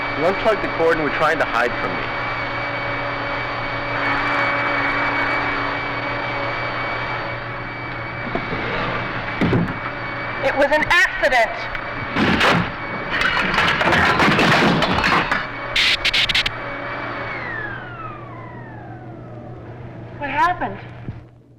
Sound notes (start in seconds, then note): 14.1 clattering; 16.2 electricity zapping